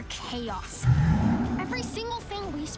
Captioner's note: roars